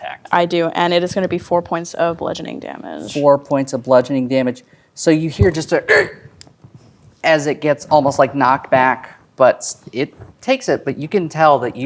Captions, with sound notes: I do, and it is gonna be 4 points of bludgeoning damage. - 4 points of bludgeoning damage. So, you hear just a (grunts) as it gets almost, like, knocked back. But it takes it, but you can tell that